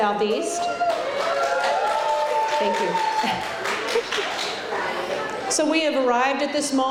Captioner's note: clapping